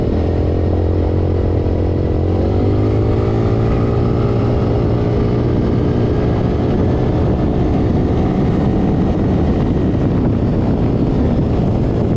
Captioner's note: engine sounds from ATV